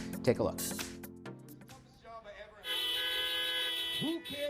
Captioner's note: cars honking